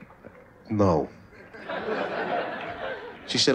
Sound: laughter

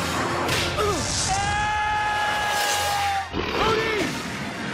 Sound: screaming

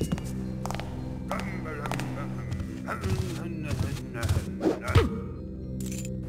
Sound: humming a song

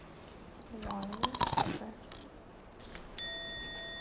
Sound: bites

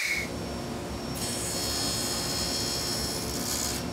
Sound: saw brattling

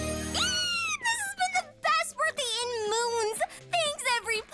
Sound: squeals

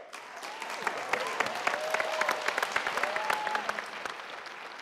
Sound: people applauding

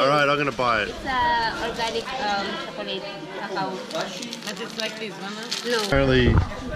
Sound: shoppers murmur in background

